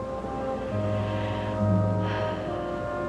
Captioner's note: sighs